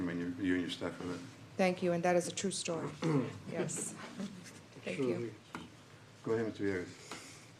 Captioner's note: clears throat